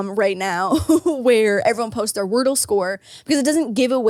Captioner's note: laughs